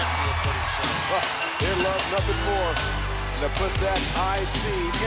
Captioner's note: laughs